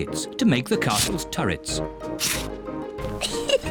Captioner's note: giggles